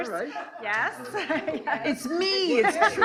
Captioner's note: laughing